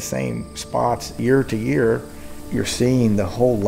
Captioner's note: wind